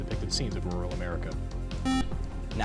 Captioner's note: beep